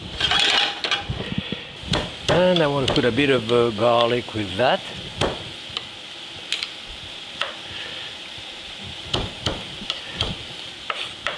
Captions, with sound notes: (pan scrapes) And I want to put a bit of garlic with that. (hand bangs)